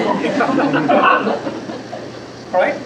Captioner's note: laughter